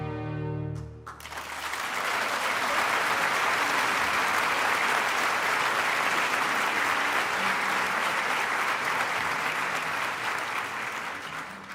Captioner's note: applause